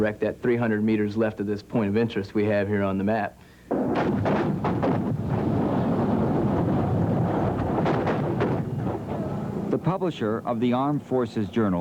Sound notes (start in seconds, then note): 3.7 explosions